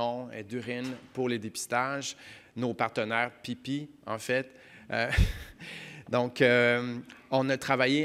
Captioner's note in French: glousse